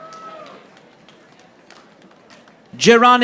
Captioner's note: audience applauding